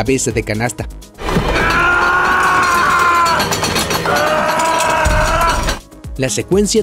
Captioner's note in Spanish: Grita mientras lo acercan a la picadora